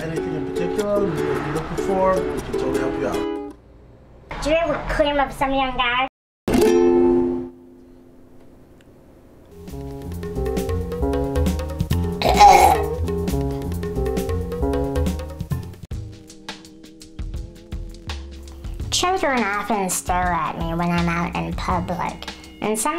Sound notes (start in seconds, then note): 6.4 tranquil ukulele music; 9.8 burps; 9.8 upbeat funky music; 16.0 gentle funky music